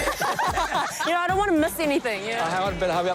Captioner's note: laughter